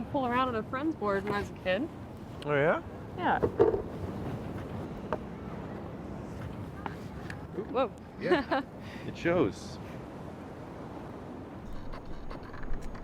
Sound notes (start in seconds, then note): 5.3 board rattles; 8.2 laughs